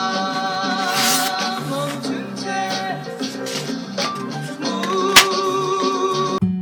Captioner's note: squeak